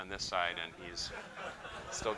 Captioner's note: laughter